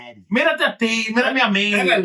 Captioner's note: speaking In Foreign Language